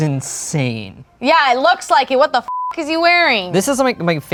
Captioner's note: beep